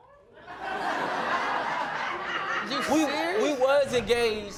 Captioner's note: laughing